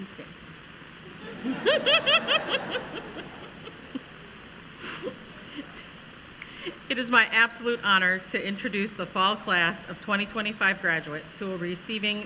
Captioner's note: laughter